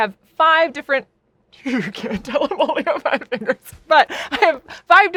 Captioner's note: laughing